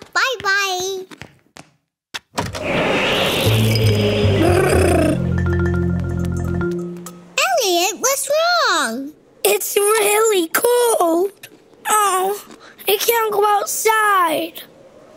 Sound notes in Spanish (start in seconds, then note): 2.8 gritos